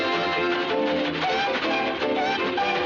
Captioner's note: train whistle